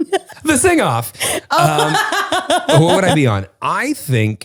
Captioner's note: laughs